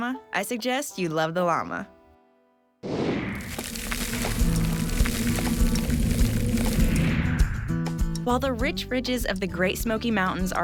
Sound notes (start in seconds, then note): 2.8 whooshing sound